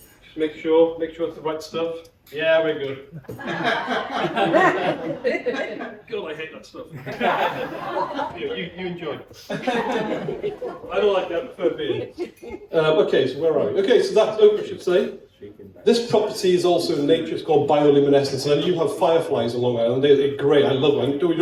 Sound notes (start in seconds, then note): 3.1 laughter; 9.4 laughter